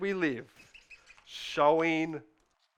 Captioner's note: pen scribbling